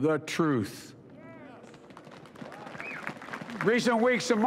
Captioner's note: applause